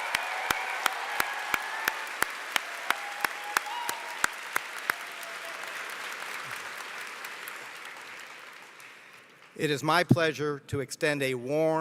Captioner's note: applause